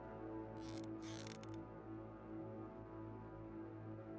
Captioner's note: chair squeaking